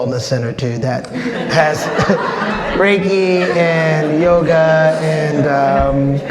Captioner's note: audience laughs